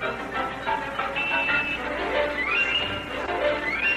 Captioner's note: horn Honks